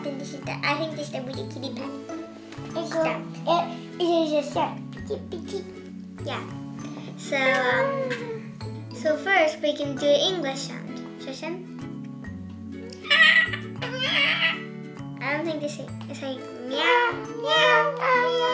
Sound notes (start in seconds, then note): 13.0 meows